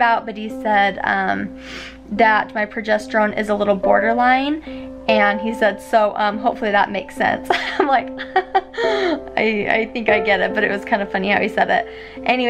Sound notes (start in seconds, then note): 8.1 laughs